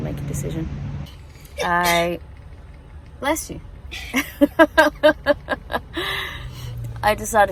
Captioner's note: sneezes; both chuckle